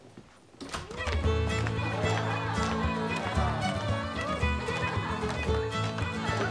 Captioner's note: students cheering; lively dance music